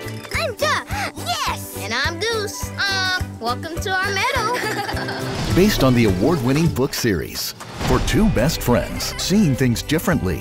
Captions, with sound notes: I'm Duck. Yes! And I'm Goose. Honk! Welcome to our meadow. (laughter) For two best friends seeing things differently,